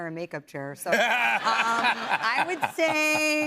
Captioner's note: laughter